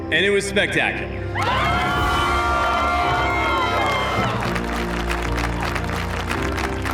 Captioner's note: cheering, applause